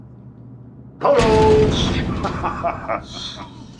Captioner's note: gasps